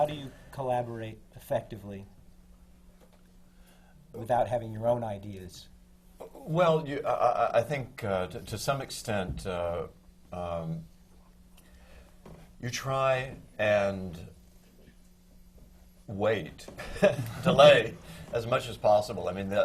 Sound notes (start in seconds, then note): 11.9 laughs